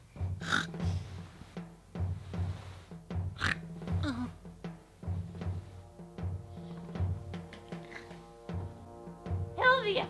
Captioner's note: snorting sound